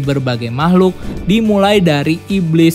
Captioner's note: transition sound